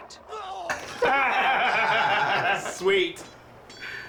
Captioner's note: laughing